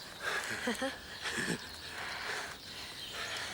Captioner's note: laughing